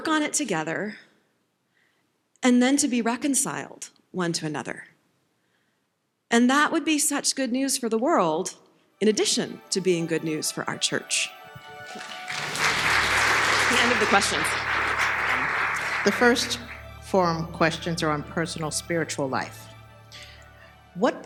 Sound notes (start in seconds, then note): 11.6 applause